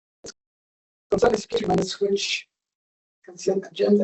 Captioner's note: distorted audio